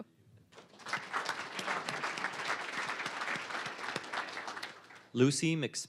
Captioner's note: applause